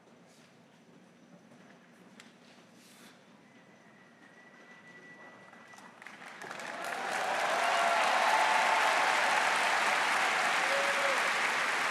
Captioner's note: applause